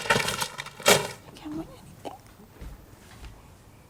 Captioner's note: muttering